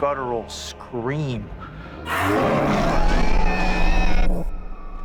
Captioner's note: roars